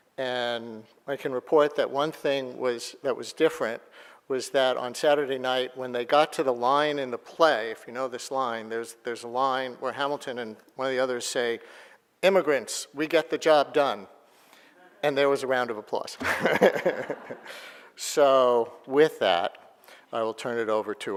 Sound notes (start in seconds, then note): 16.2 laughing